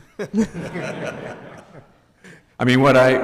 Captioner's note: giggling